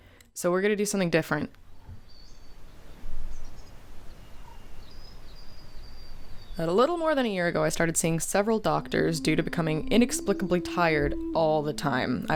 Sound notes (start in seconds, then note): 2.7 nature sounds